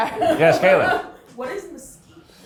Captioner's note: chuckling